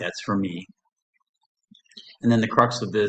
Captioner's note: silence